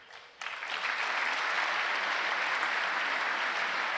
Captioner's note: applause